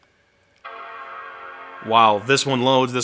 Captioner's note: computer dinging